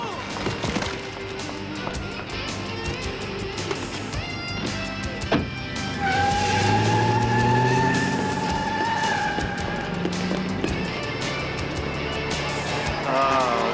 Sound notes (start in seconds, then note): 5.6 tires squealing